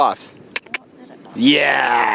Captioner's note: clicks tongue